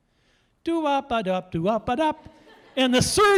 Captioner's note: audience laughing